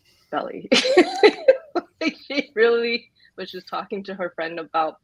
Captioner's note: laughs